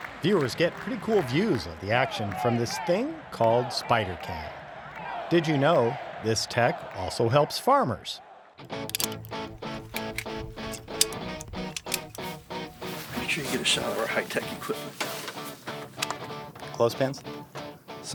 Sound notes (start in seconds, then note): 8.6 upbeat rock music; 8.8 metal clanking; 15.4 upbeat rock music